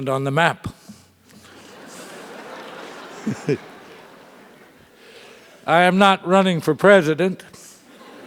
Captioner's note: laugh